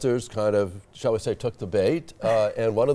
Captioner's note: laughing